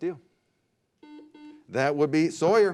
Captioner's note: beep